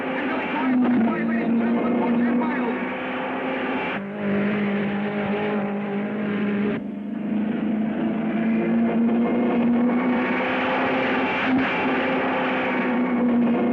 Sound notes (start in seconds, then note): 3.0 car revving; 10.4 car screaming